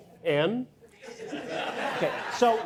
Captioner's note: audience laughing